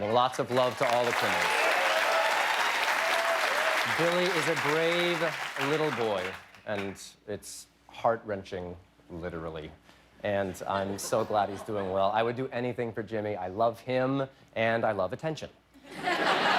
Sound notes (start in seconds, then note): 3.5 cheers and applause